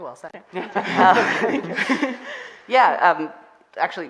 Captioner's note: all laughing